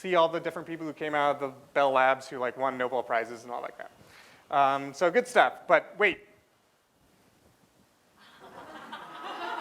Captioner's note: laughter